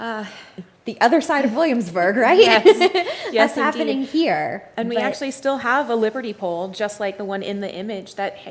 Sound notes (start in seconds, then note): 2.3 laughs